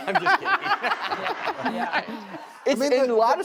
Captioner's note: laughter